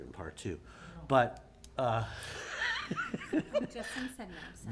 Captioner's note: laughs